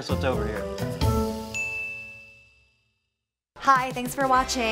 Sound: ding

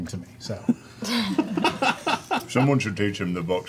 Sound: all laugh

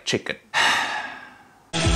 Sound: sigh; upbeat music

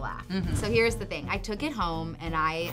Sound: laughs

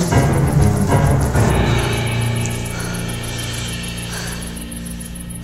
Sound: breathes heavily

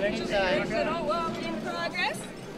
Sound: crowd talking

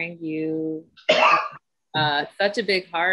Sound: coughs

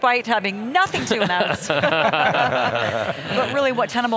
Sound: everyone laughing

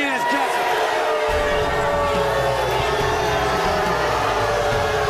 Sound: crowd jeers

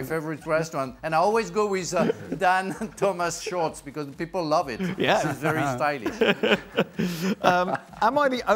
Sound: laughter

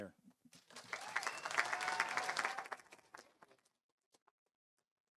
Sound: audience applauding

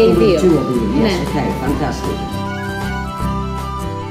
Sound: in Greek

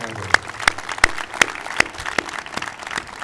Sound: applauding

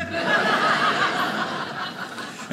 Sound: audience laughing

